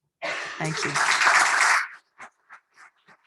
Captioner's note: applause